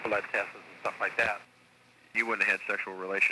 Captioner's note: on phone